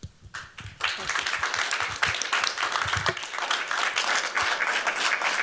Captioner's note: applause